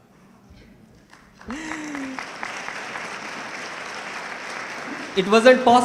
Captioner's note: audience clapping